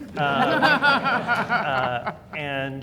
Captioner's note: everyone laughing